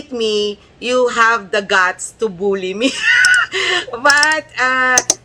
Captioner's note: laughter